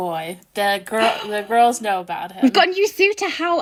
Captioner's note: laughing; excited gasp